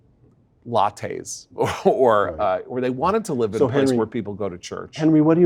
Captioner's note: laugh